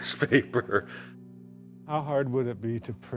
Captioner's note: laughs